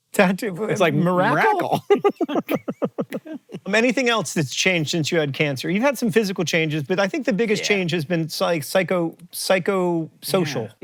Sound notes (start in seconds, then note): 1.7 BOTH chuckle